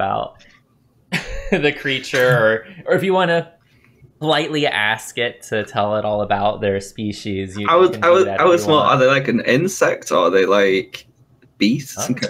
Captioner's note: laughter